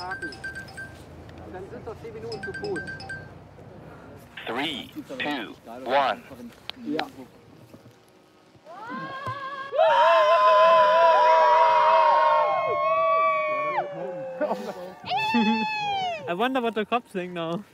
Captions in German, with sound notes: *Handyklingeln* Drei, Zwei, Eins… *Knacken* *Jubelschreie* Ich bin neugierig, was die Bullen jetzt denken.